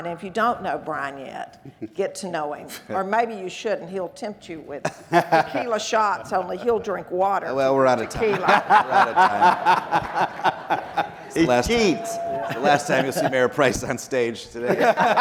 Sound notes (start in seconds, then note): 7.5 people laughing